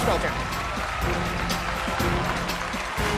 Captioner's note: cheers and applause